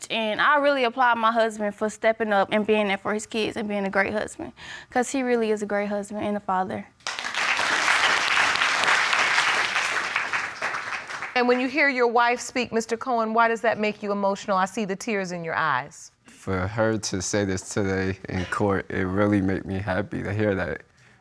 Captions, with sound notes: and I really applaud my husband for steppin' up and being there for his kids and bein' a great husband. 'Cause he really is a great husband and a father. [audience applauding] And when you hear your wife speak, Mr. Cohen, why does that make you emotional? I see the tears in your eyes. For her to say this today, in court, it really made me happy to hear that.